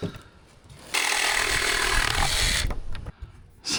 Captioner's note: drill whirring